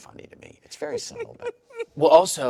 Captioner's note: laughs